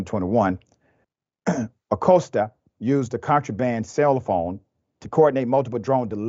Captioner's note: cough